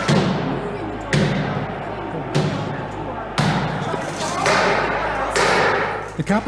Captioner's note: pounding on door